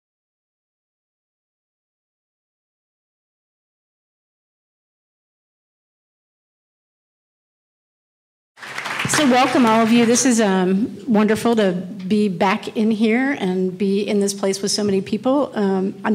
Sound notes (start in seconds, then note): 8.6 audience applauding